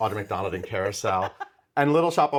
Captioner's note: Nikki laughs